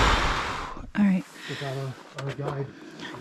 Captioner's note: gasping